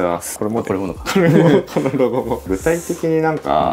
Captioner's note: laughs